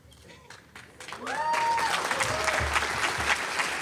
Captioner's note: applause